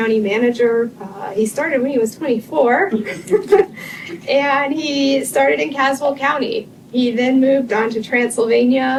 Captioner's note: laughter